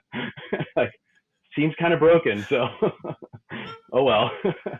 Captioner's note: laughs; laughing